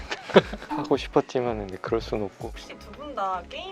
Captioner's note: laughs